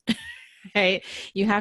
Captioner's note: laughs